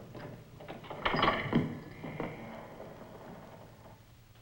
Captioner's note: gate clunks